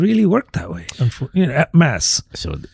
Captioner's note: uh